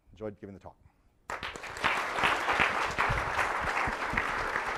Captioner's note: applause